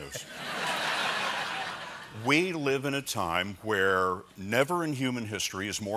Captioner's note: laughter